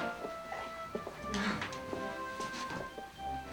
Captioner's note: laughs